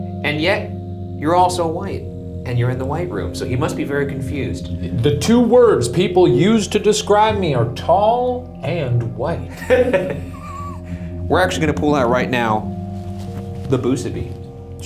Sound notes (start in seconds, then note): 9.5 laughs